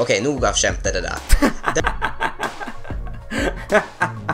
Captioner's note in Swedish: Skrattar